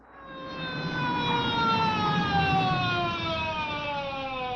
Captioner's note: sirens wailing